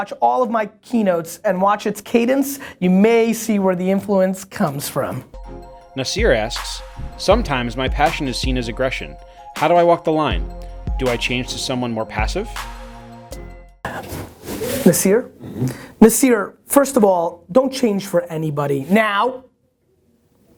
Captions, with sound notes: all of my keynotes and watch its cadence, you may see where the influence comes from. - [Voiceover] Nasir asks, "Sometimes my passion is seen as aggression. "How do I walk the line? "Do I change to someone more passive?" - Nasir? Nasir, first of all, don't change for anybody. Now,